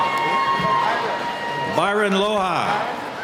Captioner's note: cheering